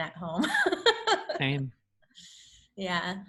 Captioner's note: laughs